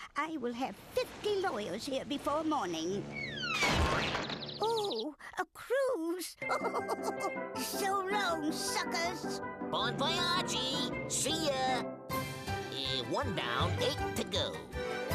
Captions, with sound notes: I WILL HAVE 50 LAWYERS HERE BEFORE MORNING. OH, A CRUISE. [laughing] SO LONG, SUCKERS. BON VOYAGE. SEE YA. EH, ONE DOWN, 8 TO GO.